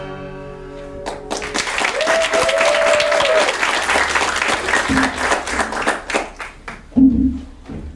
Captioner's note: applause